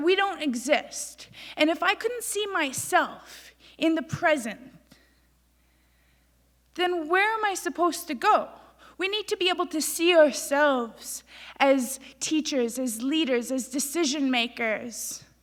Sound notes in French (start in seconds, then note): none